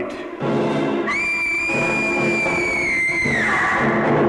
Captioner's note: screams